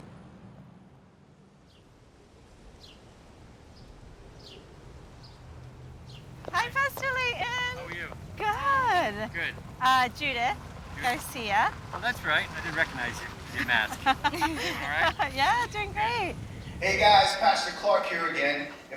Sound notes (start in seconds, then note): 1.9 birds chirping